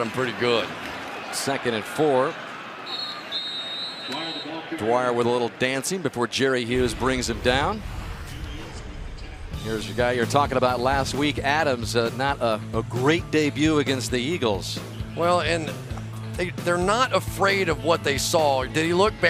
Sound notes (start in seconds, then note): 2.8 whistle; 4.5 pa announcement; 9.2 pa announcement